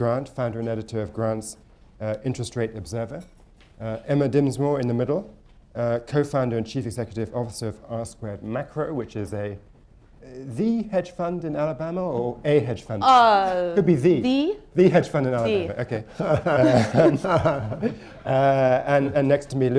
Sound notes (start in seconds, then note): 18.0 laughter